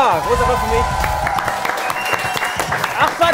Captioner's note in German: Jubel, Applaus